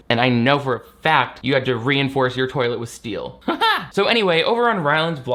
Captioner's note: laughs